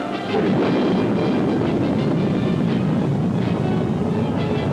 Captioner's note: rocket rumbling